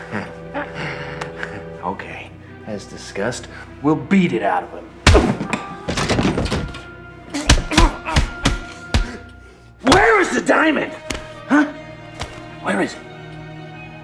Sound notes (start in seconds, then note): 0.0 laughing; 5.2 smacking; 13.7 dramatic music